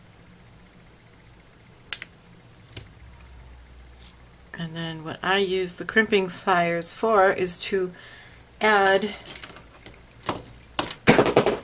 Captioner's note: sorry! Crash, bang